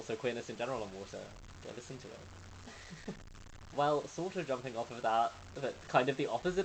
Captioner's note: laughs